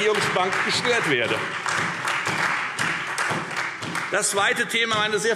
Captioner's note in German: Beifall Freie Demokraten, vereinzelt SPD und AfD